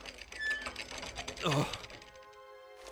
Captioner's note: bewildered mumble